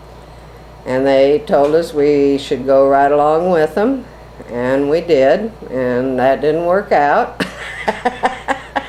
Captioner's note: laughs